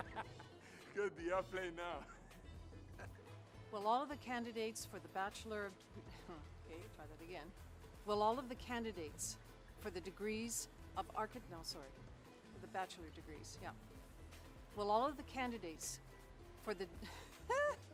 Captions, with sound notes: [laughter] Got the airplane now! Will all the candidates for the bachelor of [ahem, hum] ... try that again Will all the candidates for the degrees of Architecture no, sorry for the bachelor degrees, yep. Will all of the candidates for the hah!